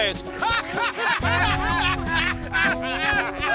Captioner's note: laughter